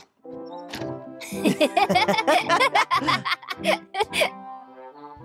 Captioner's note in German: Gelächter